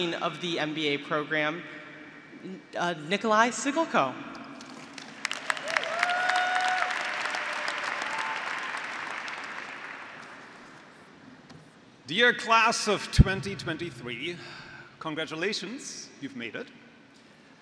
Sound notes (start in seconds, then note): 5.2 graduates cheering; 8.7 graduates and faculty applauding